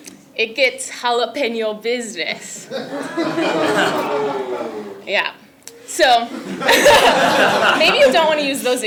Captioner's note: laugh